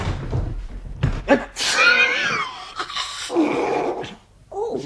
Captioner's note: sneezes and blows nose